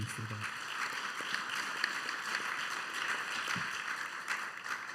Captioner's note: applause